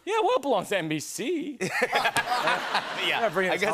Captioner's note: laughter